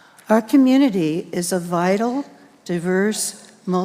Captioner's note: none